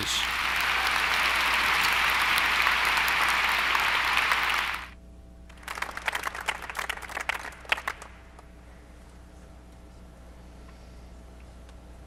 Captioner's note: applause